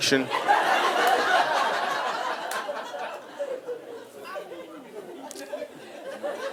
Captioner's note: audience laughing